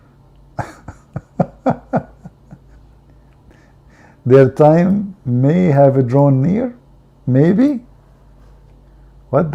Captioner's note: Ketawa